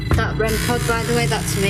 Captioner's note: REM pod beeping